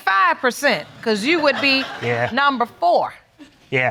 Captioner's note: audience laughs